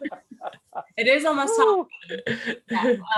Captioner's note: laughter